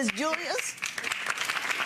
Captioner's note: audience applauding